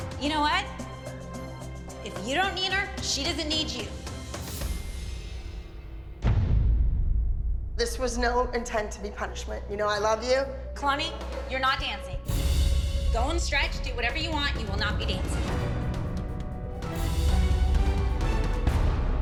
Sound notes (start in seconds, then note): none